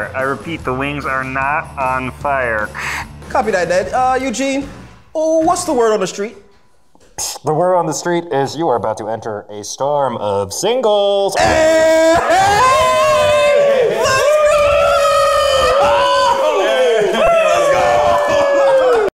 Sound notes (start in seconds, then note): 7.4 mimics radio tech; 15.2 cheering